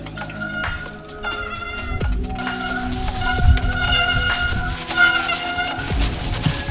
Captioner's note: upbeat electronica music; brakes squeaking